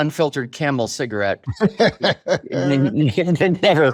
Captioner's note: laughs